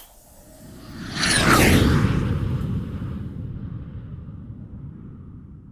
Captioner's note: sound of jet engine